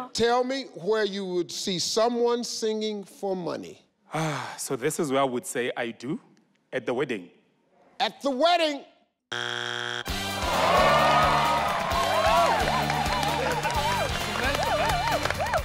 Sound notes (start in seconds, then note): 4.1 sighs; 9.3 buzz sound; 10.2 festive music; 10.4 audience exclaims in shock; 12.1 cheering; 15.4 and audience clapping